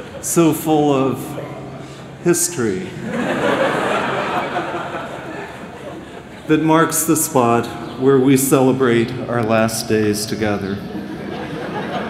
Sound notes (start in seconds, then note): 2.9 laughter